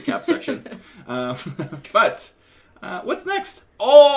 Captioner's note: laughter